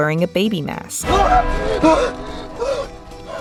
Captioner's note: Ryan screams & The clocktower chimes